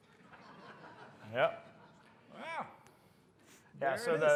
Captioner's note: laughter